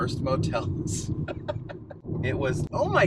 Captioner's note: laughs